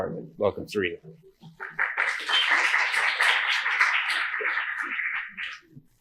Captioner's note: applause